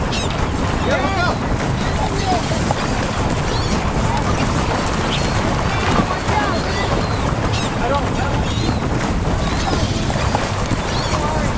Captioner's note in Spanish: gritando emocionado de fondo